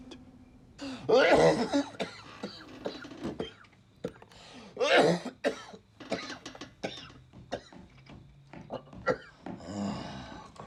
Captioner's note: coughing